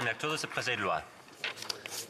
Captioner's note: speaking French